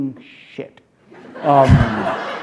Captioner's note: laughter